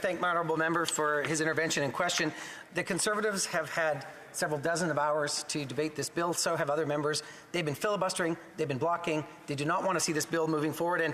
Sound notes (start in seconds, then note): 2.1 speaking French